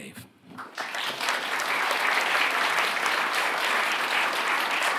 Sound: audience applauding

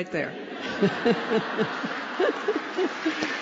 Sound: laughter; applause

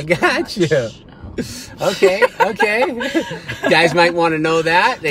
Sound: laughs

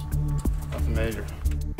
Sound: voice off camera

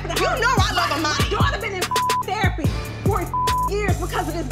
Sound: beep

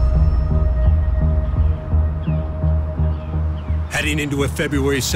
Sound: gentle dramatic music; birds singing

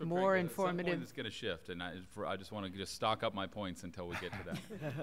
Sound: laughter

